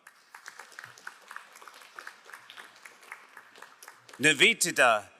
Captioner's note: crowd applauding